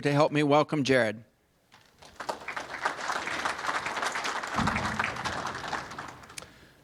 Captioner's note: applause